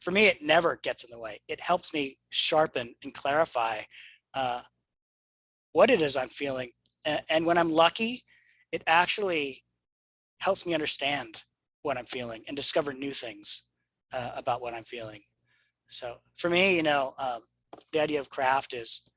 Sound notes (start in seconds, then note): none